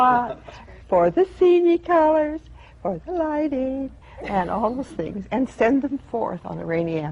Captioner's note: laughter